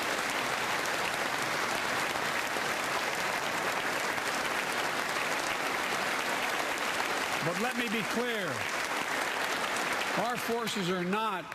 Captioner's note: applause